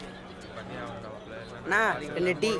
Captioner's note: indistinct chatter